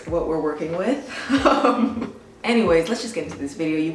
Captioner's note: laughs